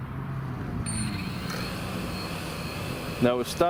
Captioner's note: drone humming